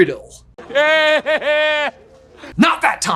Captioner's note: Voldemort laughing